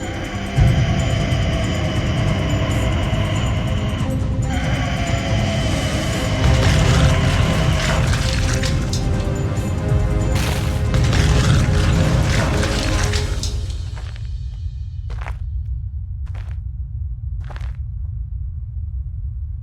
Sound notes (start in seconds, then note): 0.1 creature screeching; 6.1 creature growling; 6.3 debris crashing; 15.0 footsteps crunching